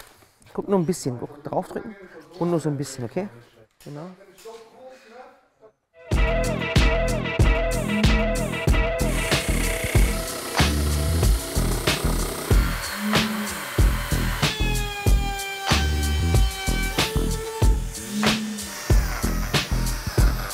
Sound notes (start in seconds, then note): 14.8 Bohrgeräusche